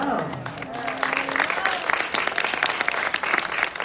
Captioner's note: applause